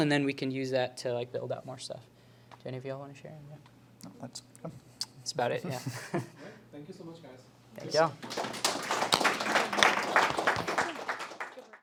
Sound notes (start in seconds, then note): 8.2 applause